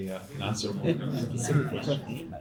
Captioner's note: laughter